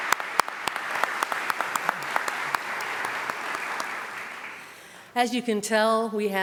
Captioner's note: applause